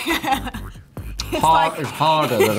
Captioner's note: laughs